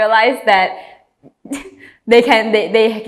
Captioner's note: chuckle